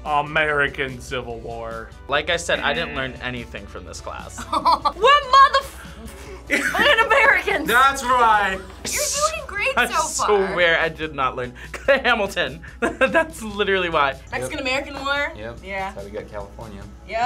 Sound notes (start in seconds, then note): 4.4 laughs